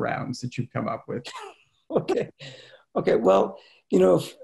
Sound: laughing

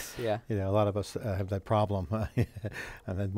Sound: chuckles

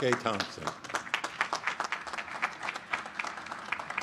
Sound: applause

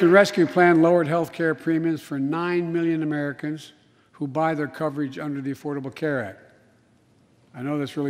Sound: applause

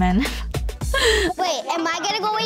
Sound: laughs

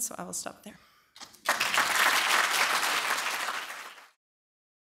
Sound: applause

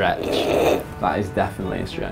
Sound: laugh

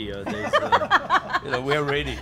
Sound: laughing

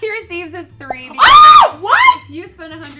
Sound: screams

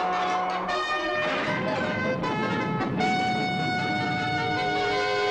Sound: missile explodes

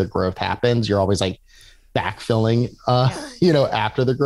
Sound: laughs

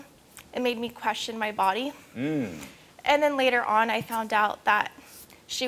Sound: none

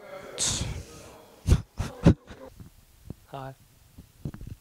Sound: crying

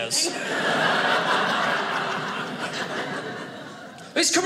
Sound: audience laughing

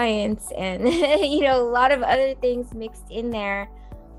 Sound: chuckles

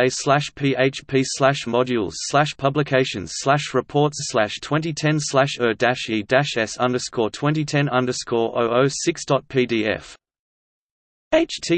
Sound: in Swedish

